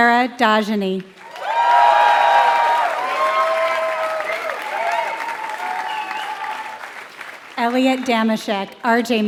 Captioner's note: applause